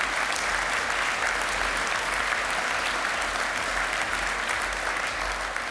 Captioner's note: applause